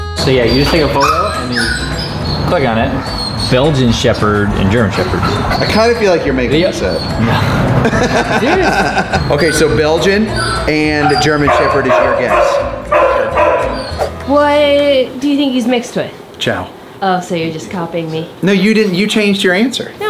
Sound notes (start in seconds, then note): 8.4 Rocky laughing; 12.1 dogs barking